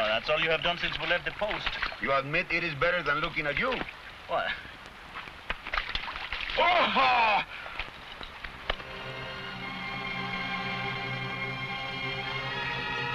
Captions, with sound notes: - Oh, that's all you have done since we left the post. - You admit it is better than looking at you. - What. (water splashing) (man shouts) (somber music)